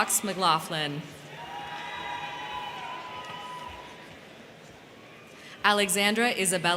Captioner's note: crowd cheering; crowd clapping